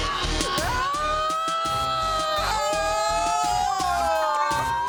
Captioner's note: overlapping chattering